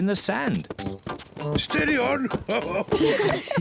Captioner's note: chuckles